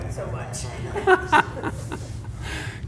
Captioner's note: laughs